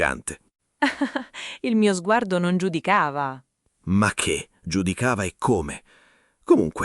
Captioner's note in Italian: Haha